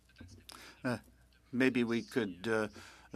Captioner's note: speaking French